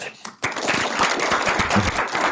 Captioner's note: applause